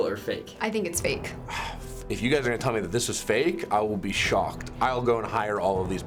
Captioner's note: sighs